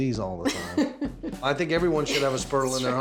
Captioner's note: laughing